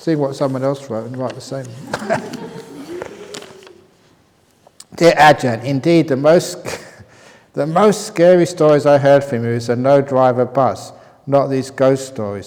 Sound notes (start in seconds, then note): 1.6 laughter